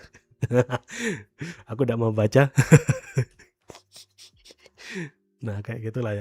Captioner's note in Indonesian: tertawa; terkesiap